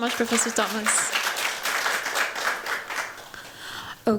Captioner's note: applause